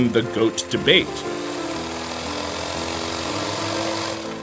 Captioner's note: reel clicking